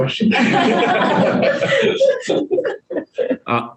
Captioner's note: group laughs